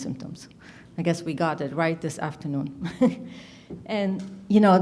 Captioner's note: chuckles